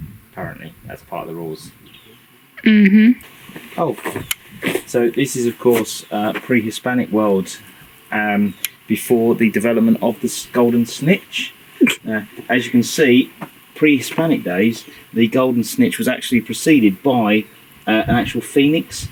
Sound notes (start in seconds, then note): 11.8 amused snicker